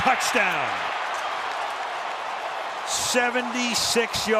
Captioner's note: cheering